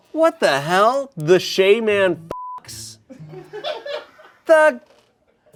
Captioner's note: beep